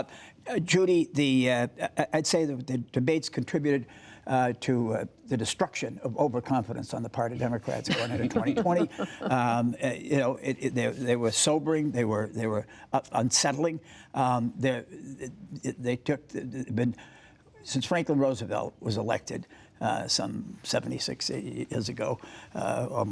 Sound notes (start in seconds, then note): 9.4 laughter